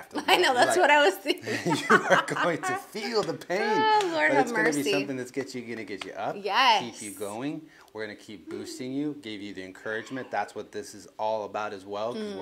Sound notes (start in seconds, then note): 1.3 laughs